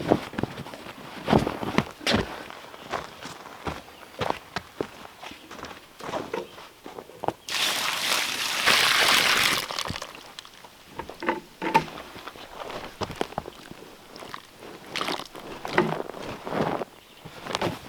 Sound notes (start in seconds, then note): 7.4 water splashing